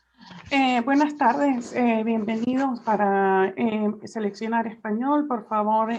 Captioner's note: translator speaking in Spanish